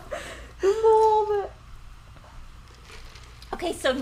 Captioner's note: mumbling